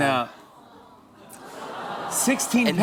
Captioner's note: audience aws